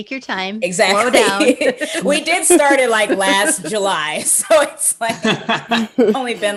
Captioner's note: laughs